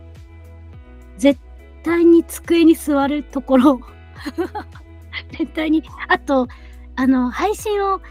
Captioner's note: laughs